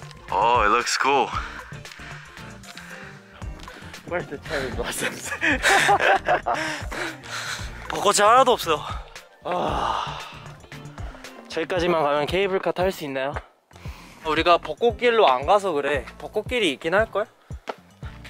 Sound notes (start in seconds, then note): 4.6 laughing